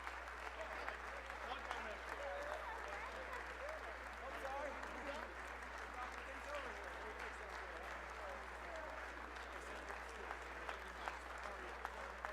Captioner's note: applause